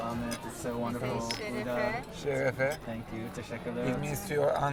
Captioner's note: woman speaking turkish